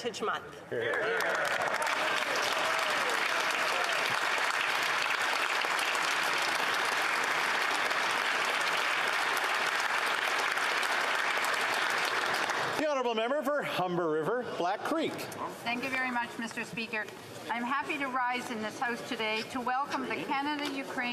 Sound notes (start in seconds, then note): 5.4 some Applause